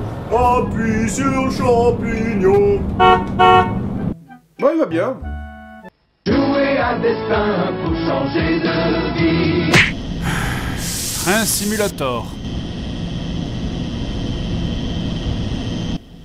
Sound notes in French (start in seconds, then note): 2.8 klaxon